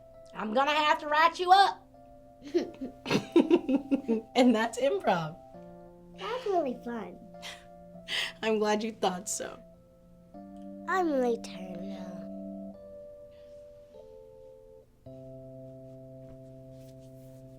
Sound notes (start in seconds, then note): 2.4 girl giggles; 3.0 laughs